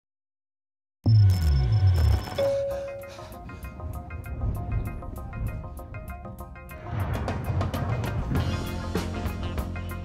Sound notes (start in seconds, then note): 1.1 elevator bell dings; 2.4 gasps, pants